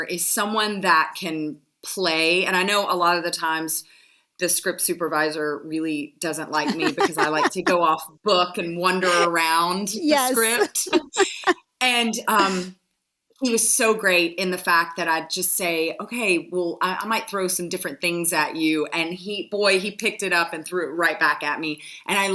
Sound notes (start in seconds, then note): 6.6 laughs; 10.2 joint laughter